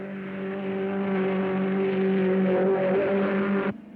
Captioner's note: car revving